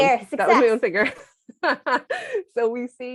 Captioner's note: laughter